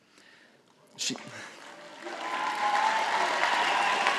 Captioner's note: all applauding